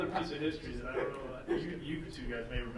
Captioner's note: laughing